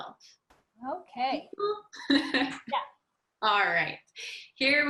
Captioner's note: laughs